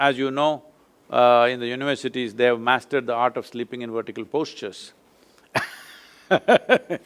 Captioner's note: laughs